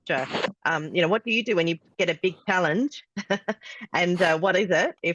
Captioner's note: laughs